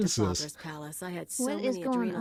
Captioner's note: laughs